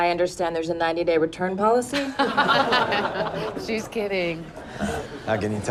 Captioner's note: laughter